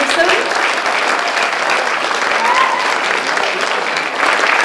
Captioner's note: audience applauding